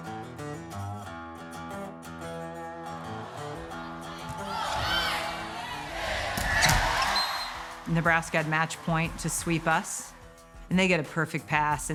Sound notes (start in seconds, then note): 3.0 spectators cheering; 7.0 whistle blowing